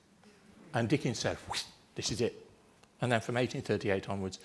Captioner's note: swoosh